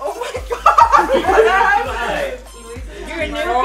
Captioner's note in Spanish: risas